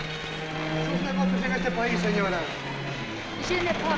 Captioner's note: man speaking spanish; woman speaking french